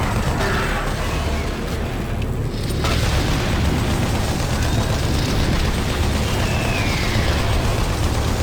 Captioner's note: gun firing